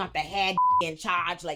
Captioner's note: beep